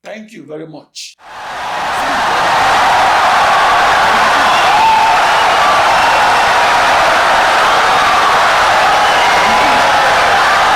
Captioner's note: audience cheering, applauding for 17 seconds